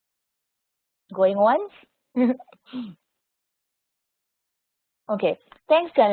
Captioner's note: chuckles